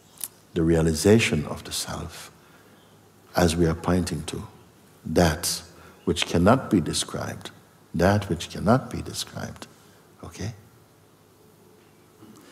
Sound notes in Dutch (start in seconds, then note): none